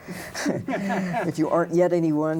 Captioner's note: both laugh